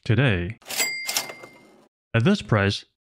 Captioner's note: cash register sound effect